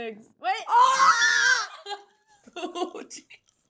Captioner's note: Becca and Zoey exclaim